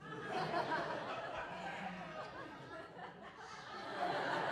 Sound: audience laughs

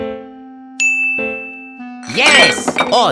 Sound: ding

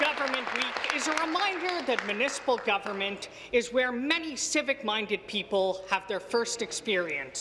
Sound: applause

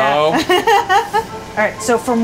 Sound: laughing

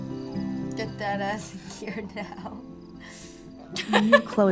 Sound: chuckles

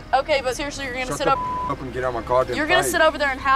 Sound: beep

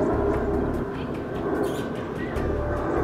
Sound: kissing sound

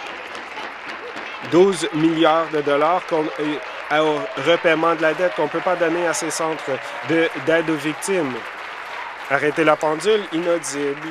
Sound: applause

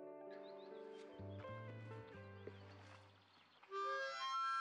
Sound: birds chirping; bright harmonica music

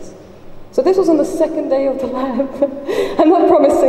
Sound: laughs

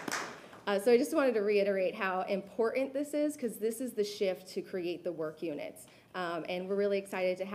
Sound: applause

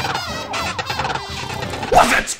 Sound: snoring

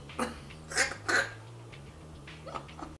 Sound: laughing

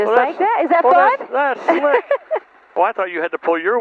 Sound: laughs

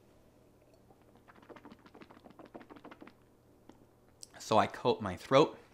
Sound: swishing water

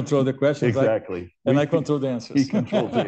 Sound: laughs

